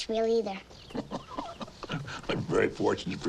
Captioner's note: Hezekiah chuckling